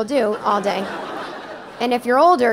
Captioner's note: audience laughing